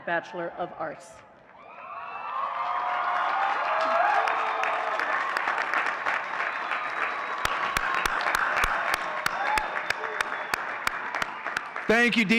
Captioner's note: audience cheering and clapping